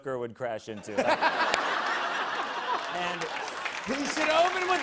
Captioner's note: laughter